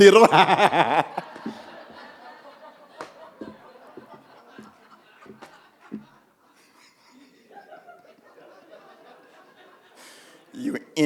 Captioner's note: everyone laughing